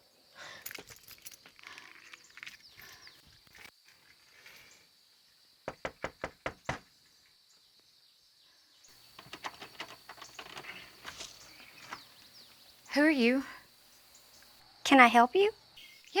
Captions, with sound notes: (knocking) Who are you? - Can I help you?